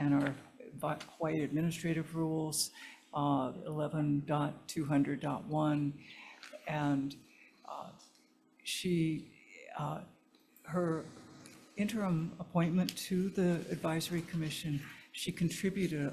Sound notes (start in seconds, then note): none